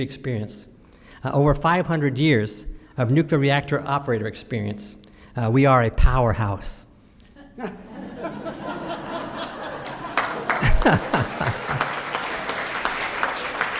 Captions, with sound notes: experience, over 500 years of nuclear reactor operator experience. We are a powerhouse. [LAUGHTER] [APPLAUSE]